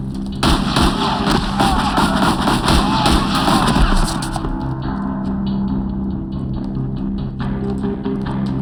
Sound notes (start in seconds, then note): 0.4 shouting, yelling